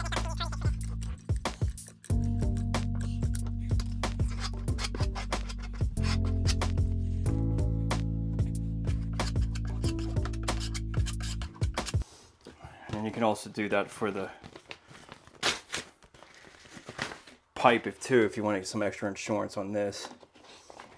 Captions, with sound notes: (gentle music) (tool scraping) And then you can also do that for the pipe too, if you want to get some extra insurance on this.